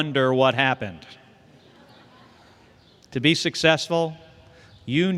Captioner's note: laughter